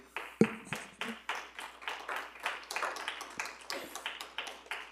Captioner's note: attendees applauding